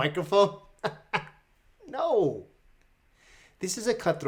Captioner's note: laughs